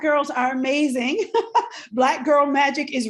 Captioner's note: laughs